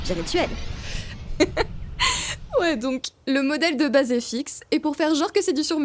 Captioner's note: laugh